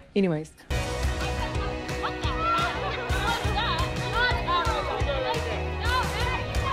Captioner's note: upbeat pop music; people chattering